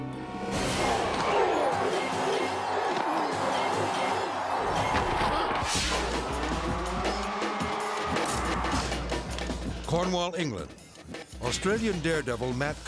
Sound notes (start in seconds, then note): 0.0 tense dramatic music; 1.0 football players grunting; 6.9 engine revving; 6.9 lively action music